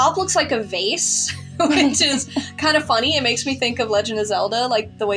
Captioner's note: chuckle